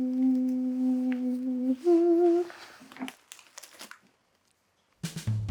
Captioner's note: Elle humming; objects rattling; lively music